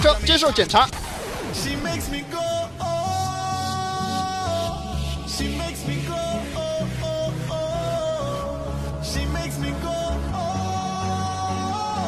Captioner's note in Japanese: 擬音